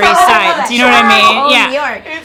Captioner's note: all laughing